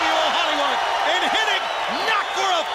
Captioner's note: crowd cheering